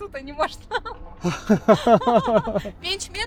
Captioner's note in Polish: wspólny śmiech nad egzekucją przepisów w Polsce